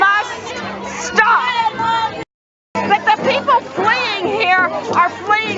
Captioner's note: crowd shouts Shame On You! Shame on You!